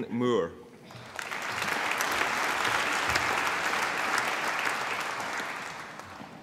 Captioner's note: applause